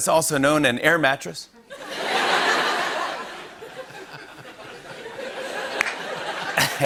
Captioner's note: laughter